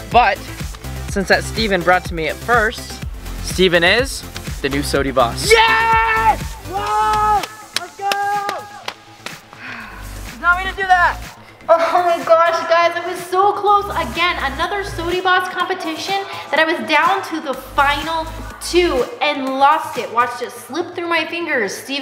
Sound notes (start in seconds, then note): 6.8 clapping; 9.5 sighs